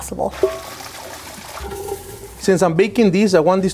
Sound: water pours

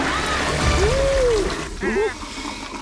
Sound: screaming; toilet flushing

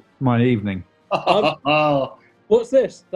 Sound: chortling

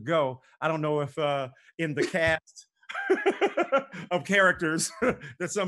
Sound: laughs

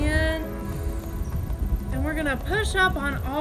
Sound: breaths deeply

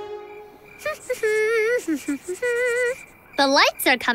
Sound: humming

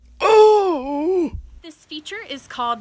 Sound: groaning

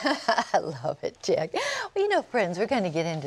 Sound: laughter

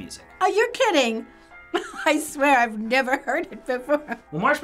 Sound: laughs

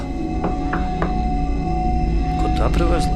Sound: someone's knocking at the door

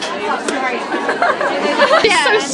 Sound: laughs

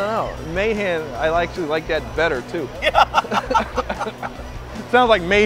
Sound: laughs

